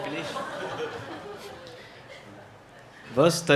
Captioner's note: audience chuckles